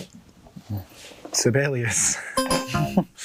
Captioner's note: laughs; buzzer beeping